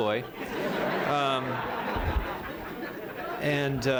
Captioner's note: laughter